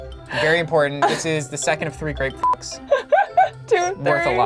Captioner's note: beep; laughing